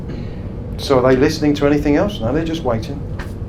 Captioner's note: slaps hands